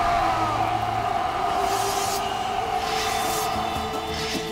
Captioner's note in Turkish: Bağrışma sesleri; Kılıç çekme sesleri